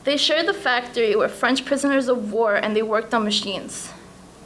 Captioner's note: none